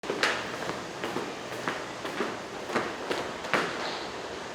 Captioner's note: footsteps